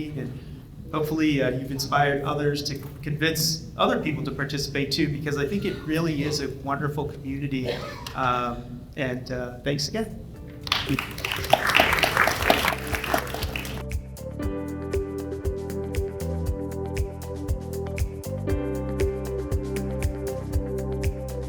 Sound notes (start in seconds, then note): 10.6 audience applauds